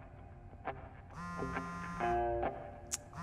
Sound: cell phone vibrating

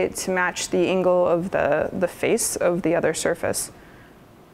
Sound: none

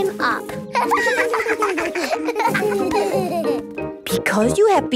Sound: laughter

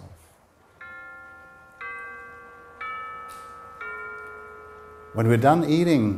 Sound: clock chime

